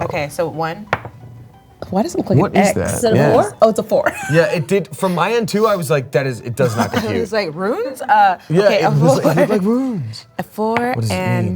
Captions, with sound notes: - Okay, so one, why does that look like an X. - What is that, yeah. - Is that a four? Oh it's a four. (laughing) - Yeah, it did from my end too. I was like, that is, it does not compute. - I was like runes? Okay. - It looked like runes. What does it mean?